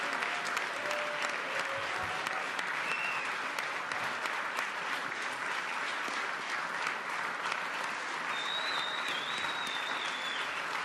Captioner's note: applause